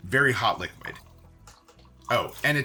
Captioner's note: water splashing